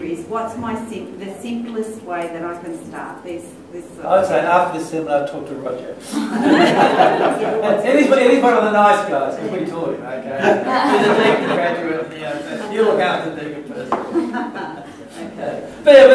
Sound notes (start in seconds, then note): 10.5 laughter